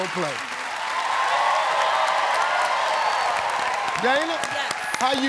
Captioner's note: cheering and applause